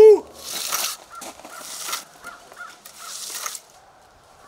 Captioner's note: cement scraping